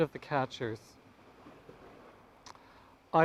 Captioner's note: waves crashing